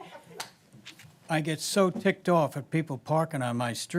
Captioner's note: laughter